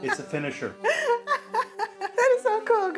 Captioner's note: laughs